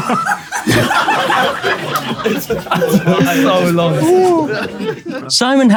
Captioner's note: people in room laughing